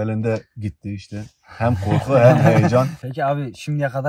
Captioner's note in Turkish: kahkaha